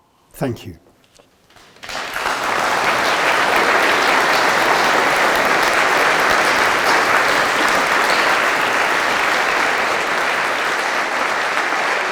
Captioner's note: applause